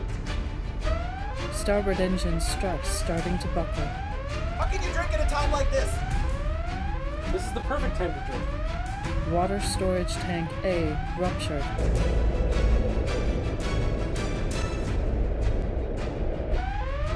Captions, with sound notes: (Computer Voice) Starboard engine struts starting to buckle. How can you drink at a time like this? This is the perfect time to drink. (Computer Voice) Water storage tank A ruptured.